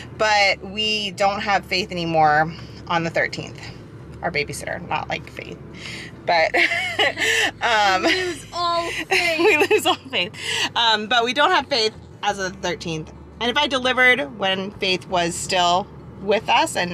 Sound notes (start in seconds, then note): 6.5 laughs